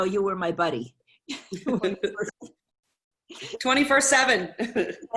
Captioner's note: laughter